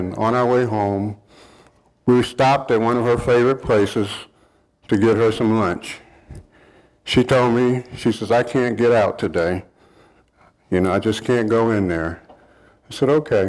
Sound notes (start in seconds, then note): none